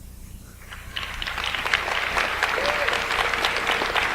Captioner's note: audience applauds